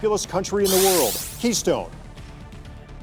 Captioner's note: buzzer sounds